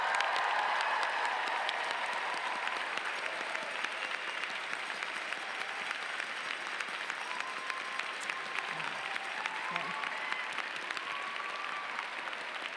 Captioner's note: applause